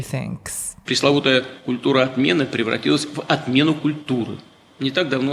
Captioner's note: speaking Russian